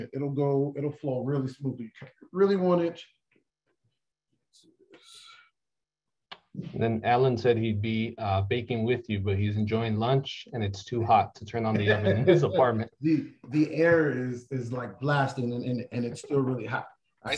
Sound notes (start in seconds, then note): 11.8 laughter